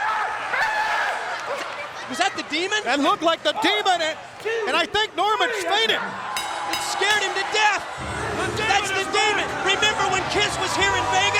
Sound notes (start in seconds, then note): 6.4 bell ringing